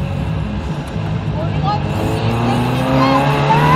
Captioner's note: inaudible Screams